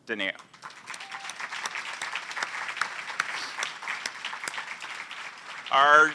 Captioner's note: applause